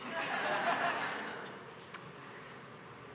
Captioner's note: laughter